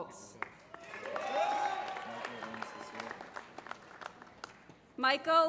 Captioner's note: applause